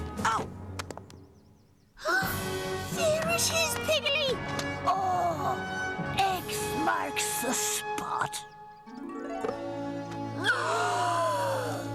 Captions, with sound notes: OW! [GASPS] THERE IT IS, PIGGLEY! OH! "X" MARKS THE SPOT. [ALL GASPING]